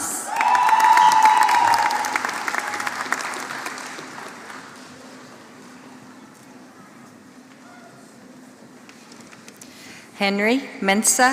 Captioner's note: applause